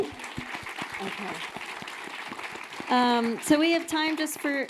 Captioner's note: audience applauding